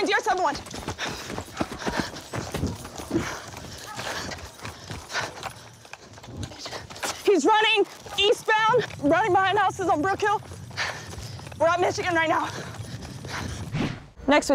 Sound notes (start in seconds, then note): 0.9 footsteps; 7.3 short of breath